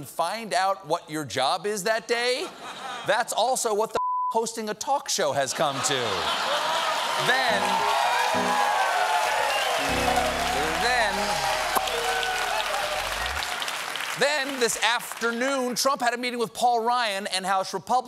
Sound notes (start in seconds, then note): 9.4 cheers and applause; 9.7 piano riff